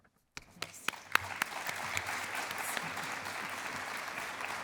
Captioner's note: applause